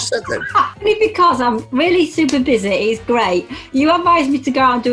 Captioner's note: laughs